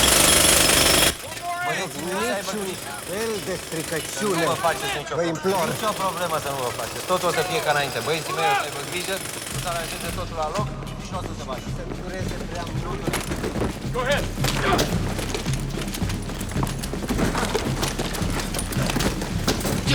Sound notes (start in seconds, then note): 1.0 curator protesting in native language